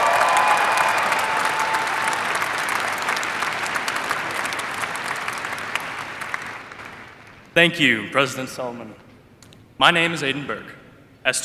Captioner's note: applause